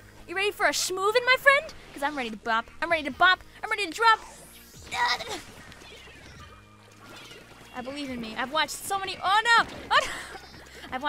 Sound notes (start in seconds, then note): 4.9 gasps; 9.7 laughs